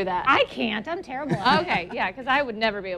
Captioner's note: laughter